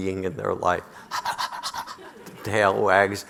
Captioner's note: panting